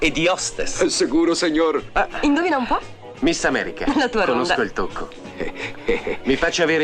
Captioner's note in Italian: risate